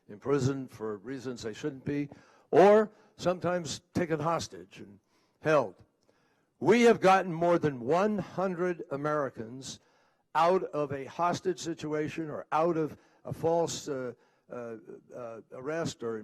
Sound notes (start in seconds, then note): none